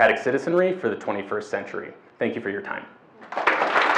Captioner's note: audience clap and cheer